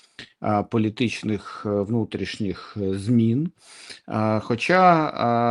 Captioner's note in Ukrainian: сопіння